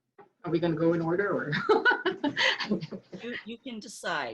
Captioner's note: laughing